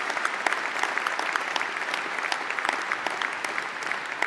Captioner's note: applause